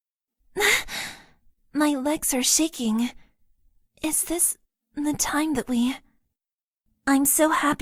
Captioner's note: gasp